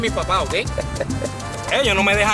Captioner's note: Ender laughs